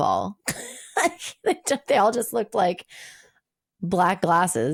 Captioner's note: laughing